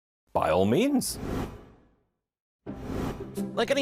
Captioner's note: logo whooshes